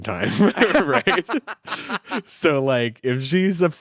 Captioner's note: all laughing